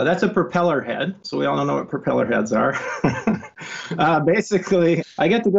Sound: laughs

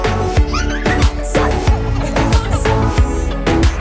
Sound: upbeat happy music; child laughing

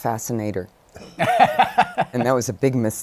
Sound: laughter

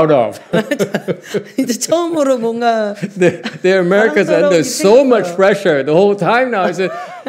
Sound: laughs

